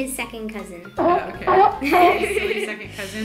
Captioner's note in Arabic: نباح الختم; يضحك